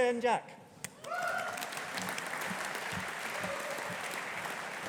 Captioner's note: audience applauding